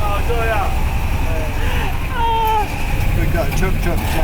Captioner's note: italian banter